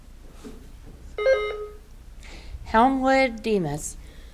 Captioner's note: button buzzing